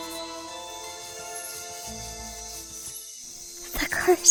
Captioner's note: scribbling